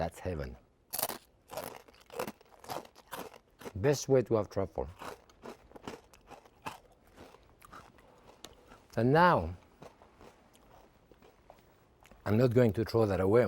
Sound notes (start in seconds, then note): 0.9 toast crunching